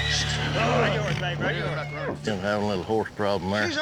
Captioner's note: horse neighing